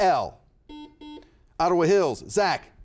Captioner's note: buzzer buzzes